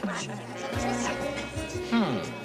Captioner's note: chatter